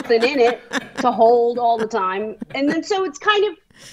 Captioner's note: laughing